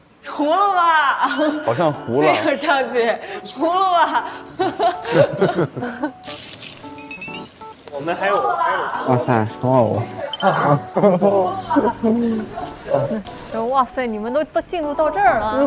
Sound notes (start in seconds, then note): 0.6 laughs